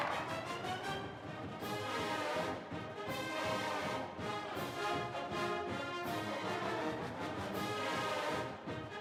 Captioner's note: cheers and applause